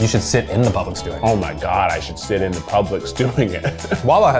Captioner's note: laughs